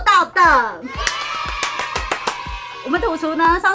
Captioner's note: applause